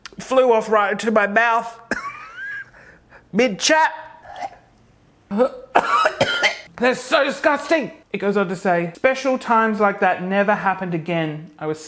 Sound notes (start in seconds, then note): 4.2 gagging loudly; 5.7 coughing loudly